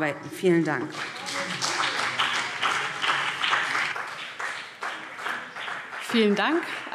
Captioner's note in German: Beifall BÜNDNIS 90/DIE GRÜNEN und CDU